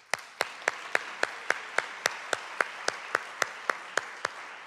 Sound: audience clapping

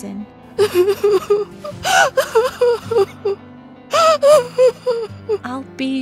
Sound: sobbing

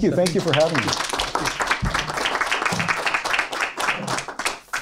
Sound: applause

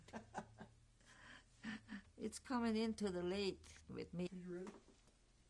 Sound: laughs

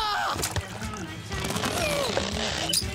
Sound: groaning

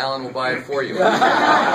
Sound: laughter

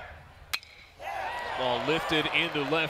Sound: ball hitting bat

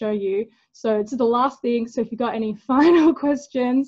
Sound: laughing

